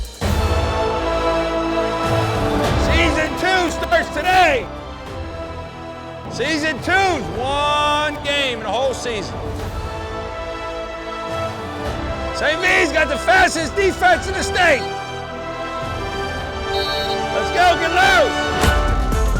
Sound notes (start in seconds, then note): 0.1 dramatic music; 9.9 dramatic music; 16.6 whistle blowing